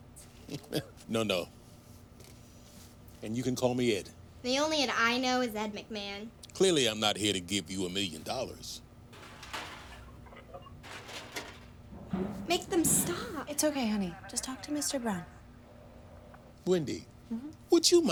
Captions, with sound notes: [laughs] No, no. And you can call me Ed. The only Ed I know is Ed McMahon. Clearly, I'm not here to give you a million dollars. [clattering] Make them stop. It's okay, honey. Just talk to Mr. Brown. -Wendy. -Mm-hmm.